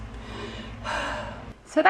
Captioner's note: sighing